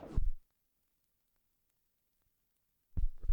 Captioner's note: silence